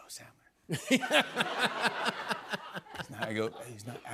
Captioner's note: laughter